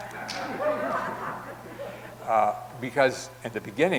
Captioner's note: audience laughing